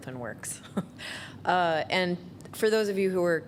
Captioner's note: chuckles